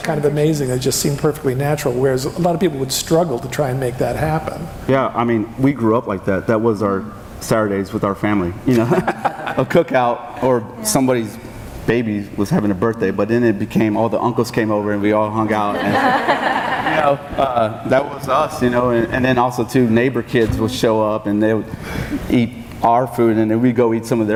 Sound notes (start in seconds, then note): 8.8 laughing; 15.6 audience laughing